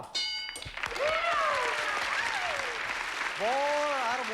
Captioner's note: cheering and applause